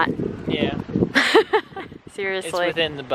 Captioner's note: laughs